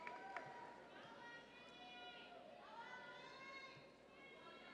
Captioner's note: audience cheering